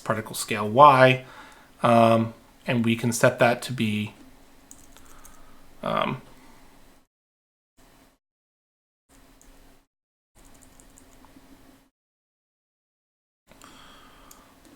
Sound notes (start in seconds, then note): 4.7 keyboard clicking